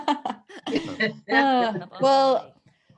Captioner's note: laughs